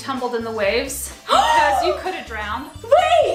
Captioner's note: gasps loudly